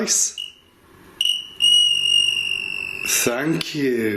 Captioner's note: device ringing